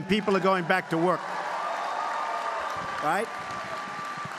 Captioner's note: applause